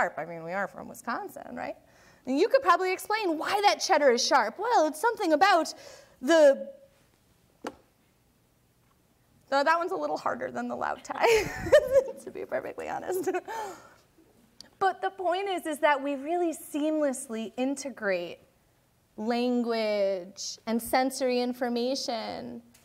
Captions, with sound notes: I mean, we are from Wisconsin, right? And you could probably explain why that cheddar is sharp. "Well, it's something about the..." That one's a little harder than the loud tie, (laughing) to be perfectly honest. But the point is is that we really seamlessly integrate language and sensory information,